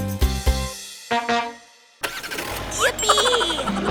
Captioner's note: honking; giggling